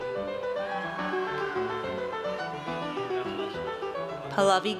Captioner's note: audience cheers